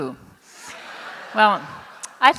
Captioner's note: laughter